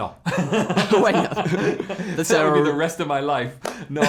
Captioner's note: laughs